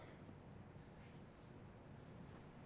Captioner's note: coughing in distance